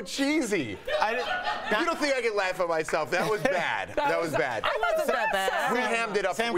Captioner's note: applause